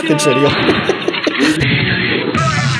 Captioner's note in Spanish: risitas